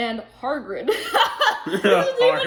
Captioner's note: laughs